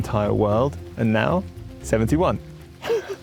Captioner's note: laughs